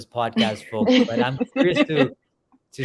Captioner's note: laugh